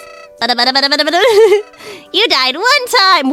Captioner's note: laughs